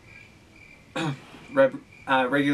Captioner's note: ahem